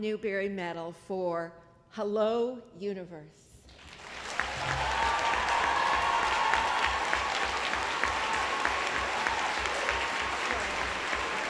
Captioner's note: applause